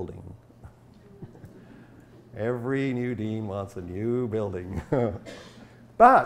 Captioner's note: chuckles; laughs